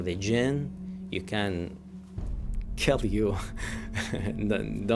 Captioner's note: laughing